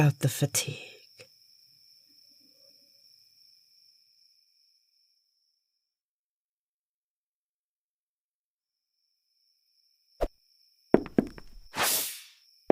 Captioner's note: crickets fade